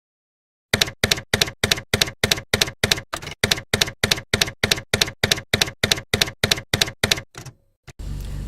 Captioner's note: typewriter keys clacking